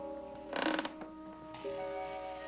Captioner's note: floorboard creaks